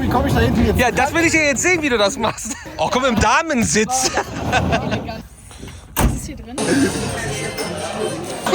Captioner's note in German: gelächter